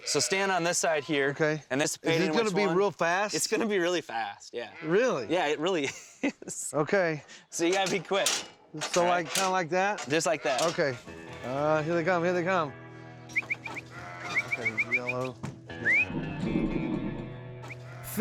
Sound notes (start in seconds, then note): 7.6 clanging sound; 12.9 whistling